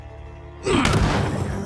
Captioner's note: grunting